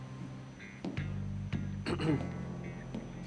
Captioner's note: throat clearing